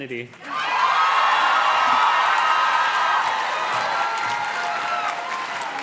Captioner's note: audience cheers and claps